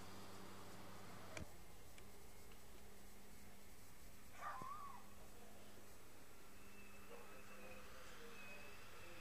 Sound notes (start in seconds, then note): 4.4 dog barking